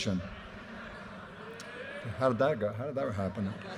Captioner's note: audience laughter